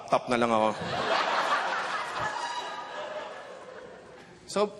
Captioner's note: laughter